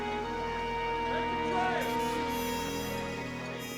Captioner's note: people chattering indistinctly